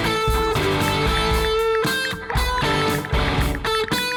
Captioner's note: ticking